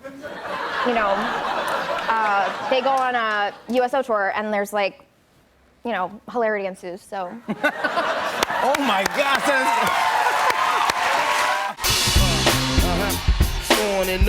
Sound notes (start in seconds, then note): 0.0 laughter; 7.3 laughter; 7.8 cheers and applause